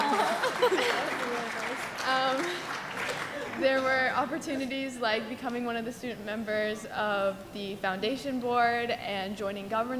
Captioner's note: laughter